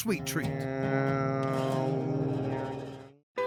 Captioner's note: imitating buzzing